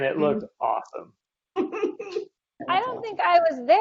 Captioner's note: laughing